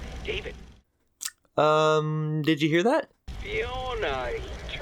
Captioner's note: lip smack